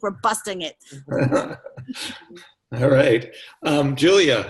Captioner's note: chuckles